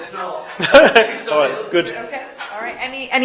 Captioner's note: laughs